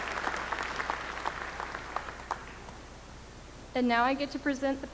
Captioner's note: applause